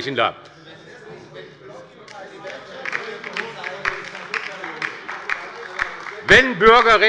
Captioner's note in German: Beifall bei der LINKEN - Zurufe von der CDU